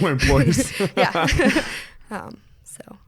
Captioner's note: both laugh; laughs